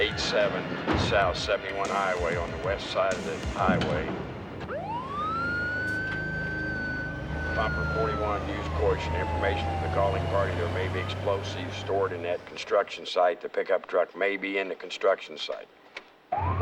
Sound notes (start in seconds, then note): 4.5 siren